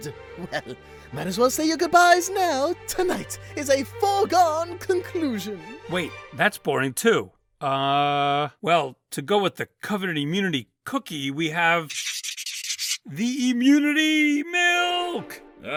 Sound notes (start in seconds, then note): 11.9 scribbling